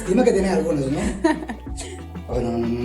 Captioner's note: laughing